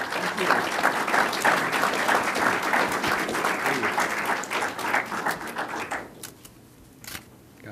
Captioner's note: applause